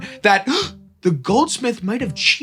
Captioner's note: gasp